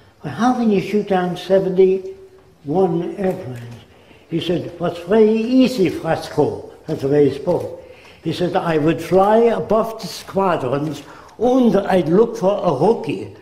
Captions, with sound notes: but how can you shoot down 71 airplanes? He said [German accent] "Eetz very easy, Fresco. " That's the way he spoke. He said "I would fly above the squadrons 'und' I'd look for a rookie